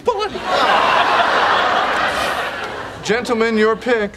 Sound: audience laughing

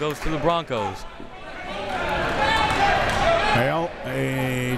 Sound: crowd members shouting

